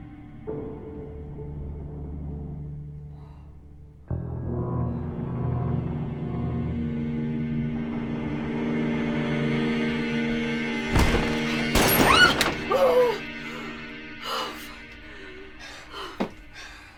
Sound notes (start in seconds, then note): 11.0 gun firing; 11.8 Lucy screams; 12.6 Linda gasps; 14.2 Lucy panting